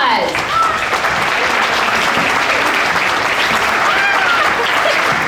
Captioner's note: audience applauding